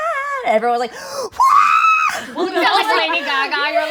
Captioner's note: singing; cheering; group laughing